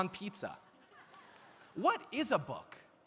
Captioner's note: audience laughs